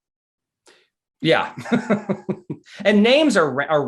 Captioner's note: laughs